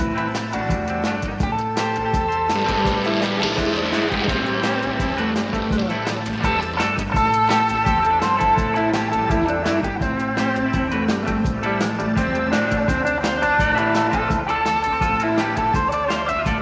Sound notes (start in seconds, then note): 2.2 crackling